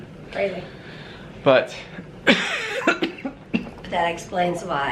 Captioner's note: coughs